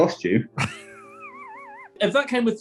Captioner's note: laughing